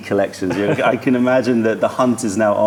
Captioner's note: laughter